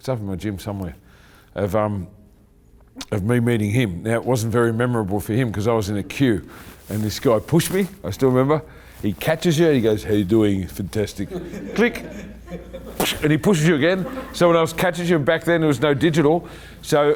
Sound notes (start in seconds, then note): 11.2 laughing; 12.3 puff